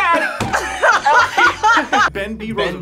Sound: both laugh

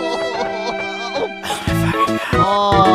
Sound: sigh

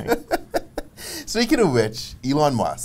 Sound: laughs

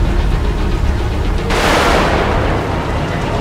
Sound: lightning

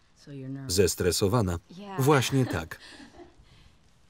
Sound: laughs

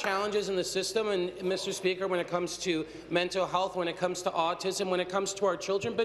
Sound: applause

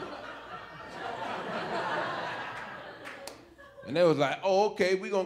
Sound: audience laughing

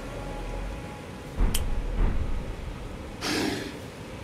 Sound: snap

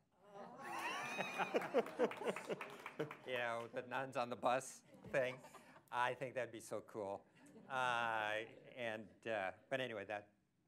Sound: laughter

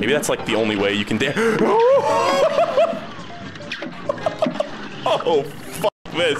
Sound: laughs from the insanity

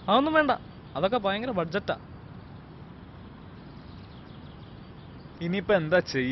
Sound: director voice

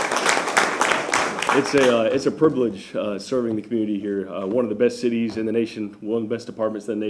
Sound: applause

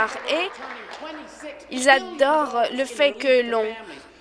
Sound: applause

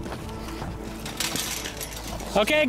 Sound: clanging

